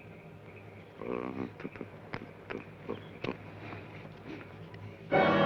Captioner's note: Joshua hums melodically